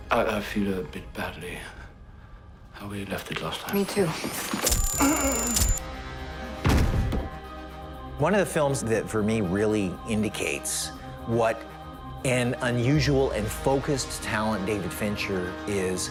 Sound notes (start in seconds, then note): 4.4 device buzzes and squeals